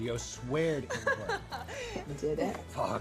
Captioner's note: Sara laughing